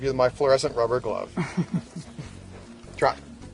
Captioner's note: woman laughs